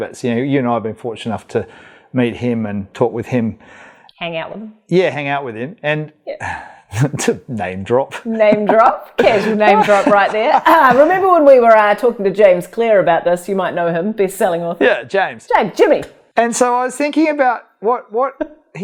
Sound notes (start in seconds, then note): 8.1 laughs; 11.0 clears throat